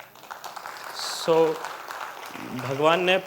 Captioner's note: applause